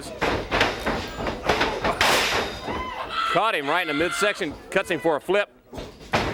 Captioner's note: crowd chatter